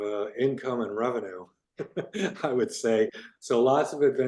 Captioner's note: laughs